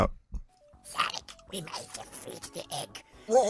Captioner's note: gurgling voice